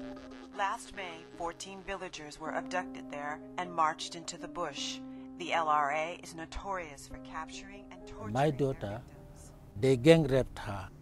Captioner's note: radio newscast